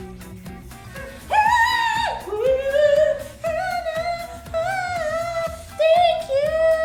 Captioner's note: moans; vocalizes wildly